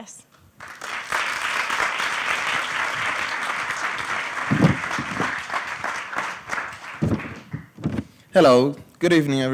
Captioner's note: applause